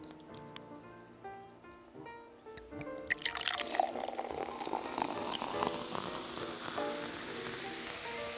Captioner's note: can opens, fizzing